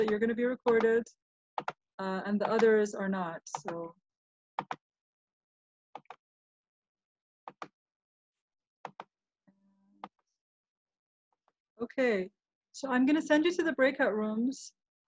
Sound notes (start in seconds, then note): 6.0 mouse click sounds